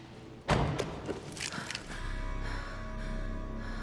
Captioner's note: breathing heavily